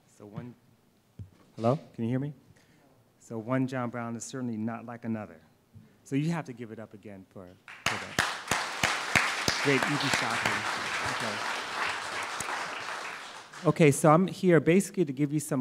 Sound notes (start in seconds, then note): 7.6 applause